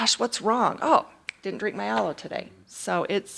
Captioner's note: fingers snap